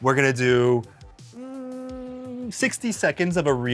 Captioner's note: thinking hum